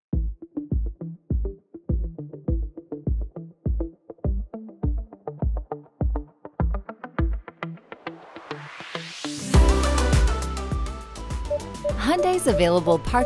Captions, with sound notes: (light music) (PDW beeping) Hyundai's available